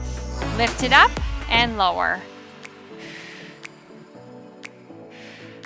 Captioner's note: exhales